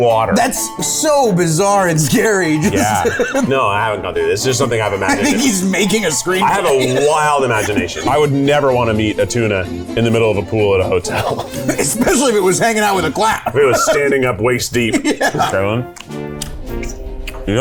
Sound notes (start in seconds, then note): 2.5 laughing; 11.0 laughing